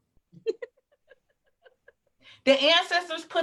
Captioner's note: laughs